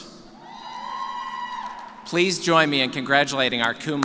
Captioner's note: cheers